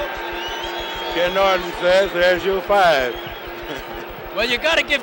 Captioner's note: bell sounds